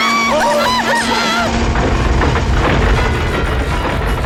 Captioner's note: screaming; rumbling